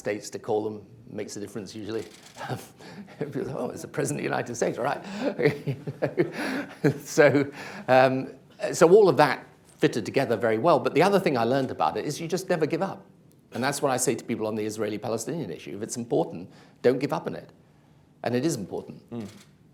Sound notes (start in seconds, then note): 2.4 chuckles; 7.6 laughs